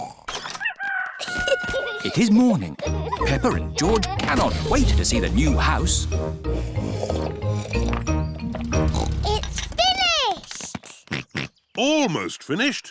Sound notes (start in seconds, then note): 0.6 rooster crowing; 6.4 slurping; 8.5 oinks; 10.4 george oinks